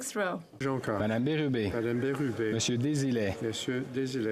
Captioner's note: speaking French